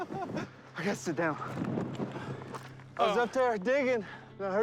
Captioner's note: panting